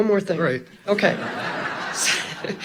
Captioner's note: audience laughing; laughing